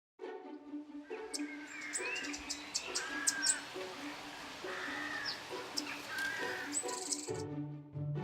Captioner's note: bird Song